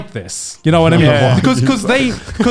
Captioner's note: laughs